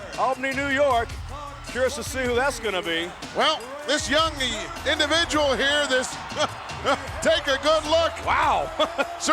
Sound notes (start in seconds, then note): 8.4 laughs